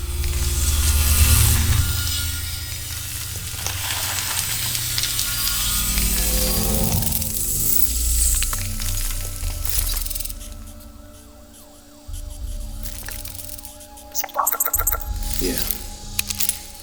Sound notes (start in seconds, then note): 0.2 materializing sound; 5.0 ominous sound; 14.0 robot chirping and clicking